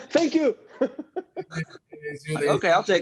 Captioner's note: Tenoch laughing